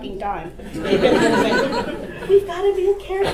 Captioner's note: audience laughter